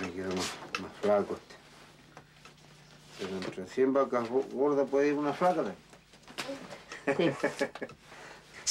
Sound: laughs

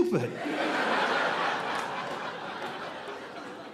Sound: audience laughing

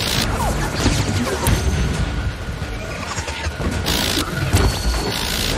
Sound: weapons whirring

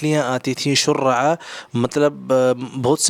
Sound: Arabic

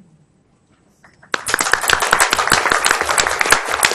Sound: applause

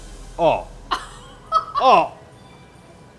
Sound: laughter

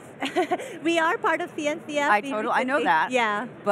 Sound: chuckling

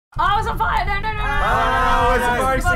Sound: fellow chefs scream with dignity

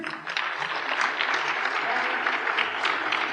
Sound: applause

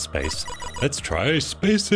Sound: electronic beeping

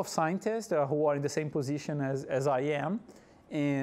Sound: none

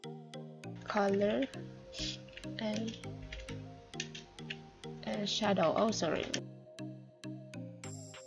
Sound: typing

